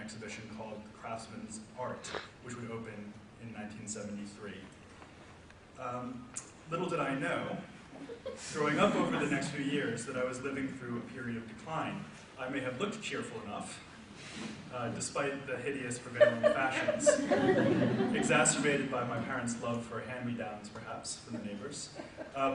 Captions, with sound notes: exhibition called 'Craftsman's Art,' which would open in 1973. Little did I know, growing up over the next few years that I was living through a period of decline, I may have looked cheerful enough, despite the hideous prevailing fashions, (audience laughs) Exacerbated by my parents' love for hand-me-downs, perhaps from the neighbors.